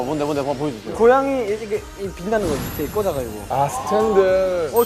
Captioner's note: tergagap-gagap